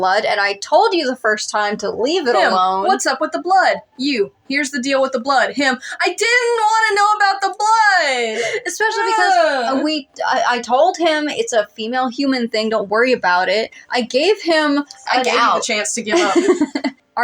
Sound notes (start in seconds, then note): 8.7 whine; 16.1 laugh